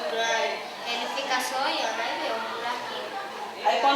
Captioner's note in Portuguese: Fundo de vozes de crianças fora da sala de aula